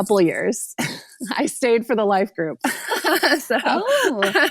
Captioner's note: laughs